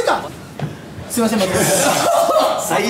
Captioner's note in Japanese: 笑い